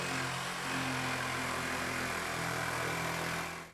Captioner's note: drilling